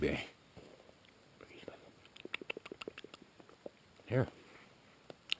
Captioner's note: lips smacking sound